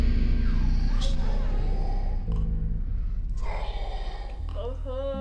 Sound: demonic Voice

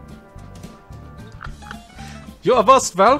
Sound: laughs

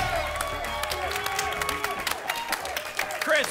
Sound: applause and cheering

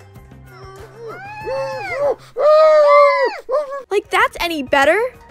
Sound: muffled screaming noises

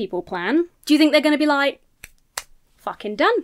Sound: claps hands

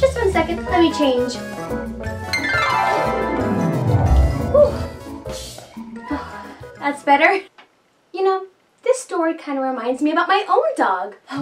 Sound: whoosh

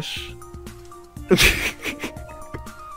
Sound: hysterical laughter

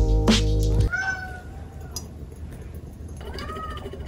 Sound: meow

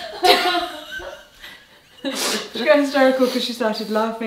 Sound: both laughing

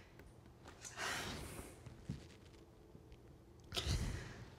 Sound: Alex sighs

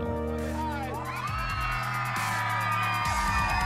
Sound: cheering

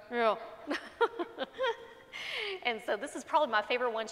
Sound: laughs

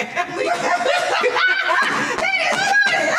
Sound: laughing

